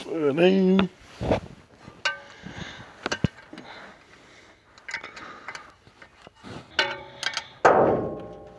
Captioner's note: metal clanging